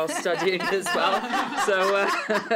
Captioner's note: laughter